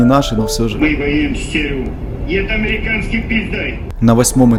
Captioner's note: TV Sound